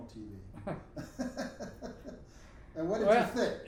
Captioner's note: both laughing